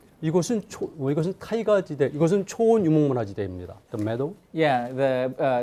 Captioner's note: speaking in Korean